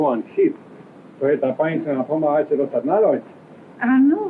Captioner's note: speaking portuguese